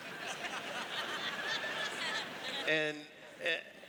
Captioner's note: laughter